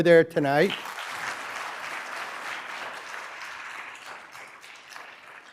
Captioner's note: applause